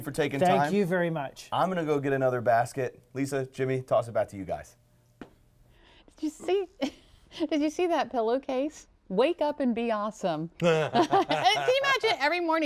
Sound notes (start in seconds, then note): 6.8 laughter; 10.7 laughter